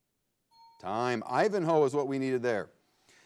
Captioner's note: bell chimes